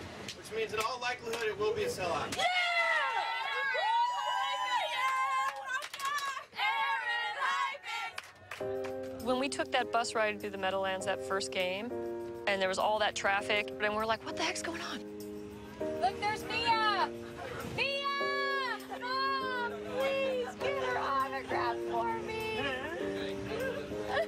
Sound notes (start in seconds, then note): 2.3 cheering; 6.5 everyone cheers